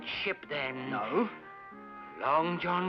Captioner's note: Gunn gasps